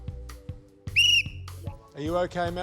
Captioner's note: blows whistle